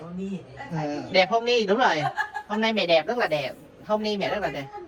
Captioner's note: laugh